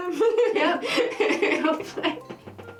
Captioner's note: laughter; laughing